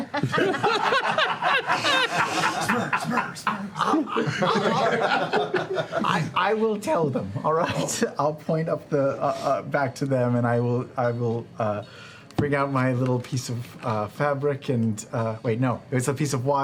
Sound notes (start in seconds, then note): 0.0 laughter; 2.8 echoing; 4.4 laughter